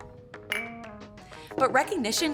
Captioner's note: glasses clinking